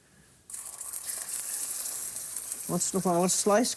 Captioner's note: sizzling